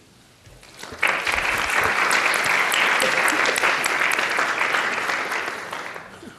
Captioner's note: applause